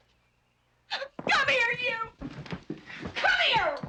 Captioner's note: crying